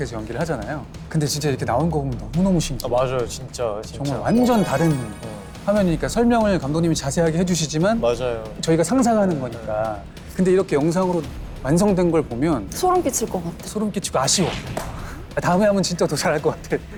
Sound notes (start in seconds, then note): 14.7 claps